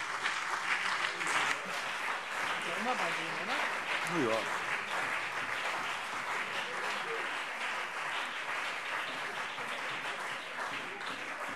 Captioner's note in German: Beifall CDU und BÜNDNIS 90/DIE GRÜNEN